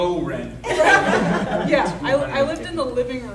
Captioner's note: audience laughing